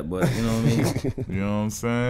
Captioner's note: Darius laughing